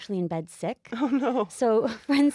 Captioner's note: slight chuckle